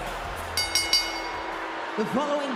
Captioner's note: bell rings